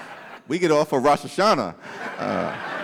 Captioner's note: laughter